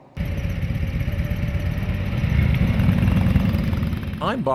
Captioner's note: motorcycle engines purr